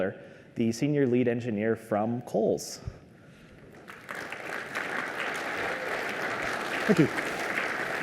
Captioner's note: applause